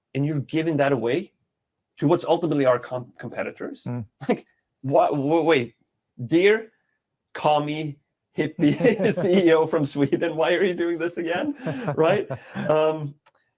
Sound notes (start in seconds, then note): 4.8 chuckling; 8.4 laughing